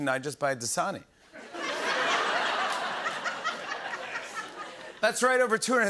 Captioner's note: laughter